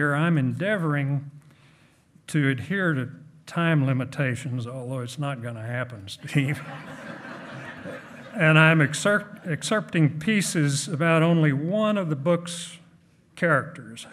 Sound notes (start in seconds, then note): 6.4 hearty laughing